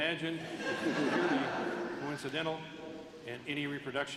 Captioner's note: laughter